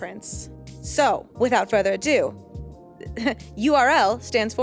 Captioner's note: chuckles